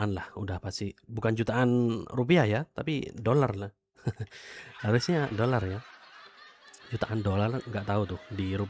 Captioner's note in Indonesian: tertawa